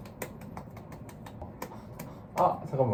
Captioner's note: pat pat pat